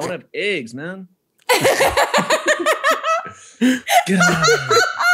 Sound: all laugh

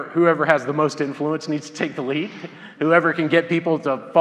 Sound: laughs

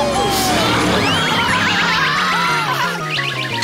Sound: screaming; cheering

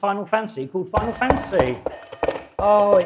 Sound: buzzer ringing

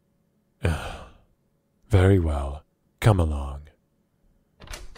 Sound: groans; chair Creaking, climbing out of chair

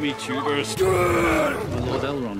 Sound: Black Speech

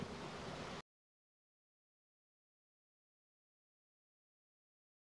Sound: silence

